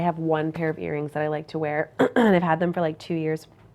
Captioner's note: clears throat